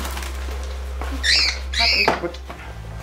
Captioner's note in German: Schrilles Piepsen